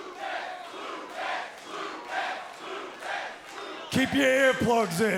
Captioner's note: cheers and applause; fans chanting